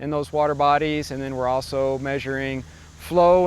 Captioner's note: water babbling